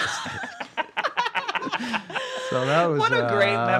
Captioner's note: laughing